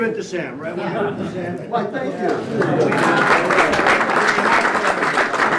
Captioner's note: applause